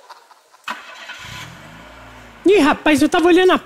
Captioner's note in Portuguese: ignição